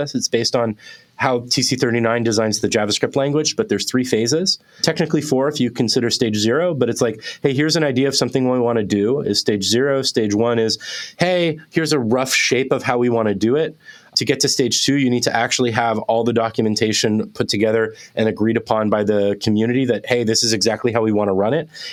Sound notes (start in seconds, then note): none